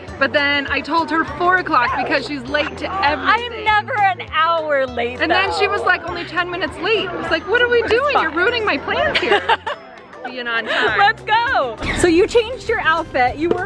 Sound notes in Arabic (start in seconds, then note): 7.9 بهدوء; 8.8 يضحك